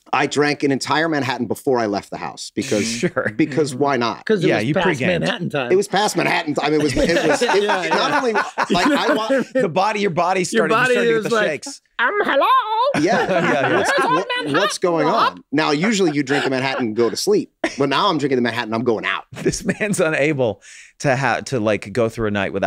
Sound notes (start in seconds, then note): 2.6 chuckles; 7.5 group laughs; 12.0 group laughs; 12.7 funny voice